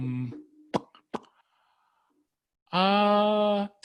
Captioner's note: smacking lips